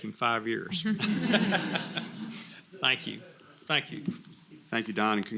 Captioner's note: laugh